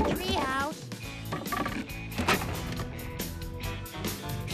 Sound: clattering

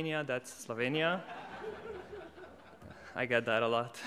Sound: audience laughs

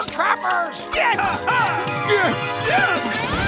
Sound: yelling

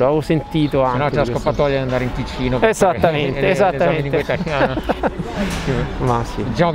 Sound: laughter

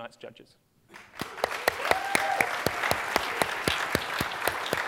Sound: applause

